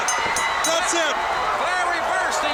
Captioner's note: bell ringing